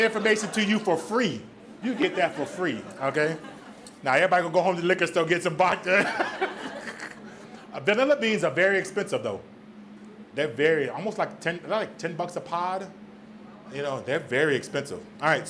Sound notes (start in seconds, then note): 5.7 laughs